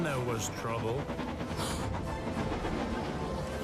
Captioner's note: gasps